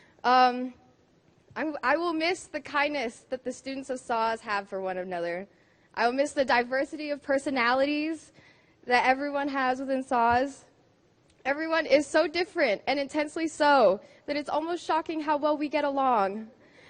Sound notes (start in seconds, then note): none